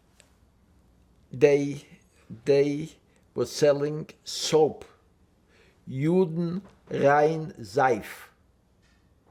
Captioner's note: german